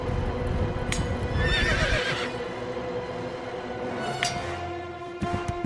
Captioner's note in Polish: galop, uderzenia metalu o metal, rżenie koni